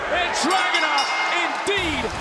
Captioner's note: bell rings